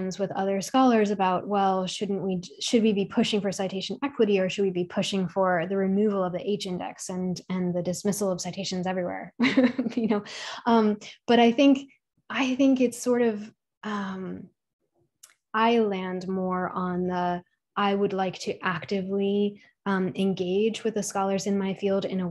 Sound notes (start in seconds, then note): 9.4 chuckles